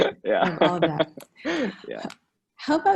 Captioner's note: laughing; faintly speaking